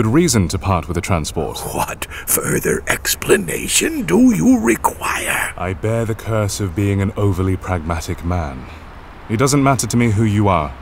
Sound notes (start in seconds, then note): 1.6 incredulous; 5.1 sarcastic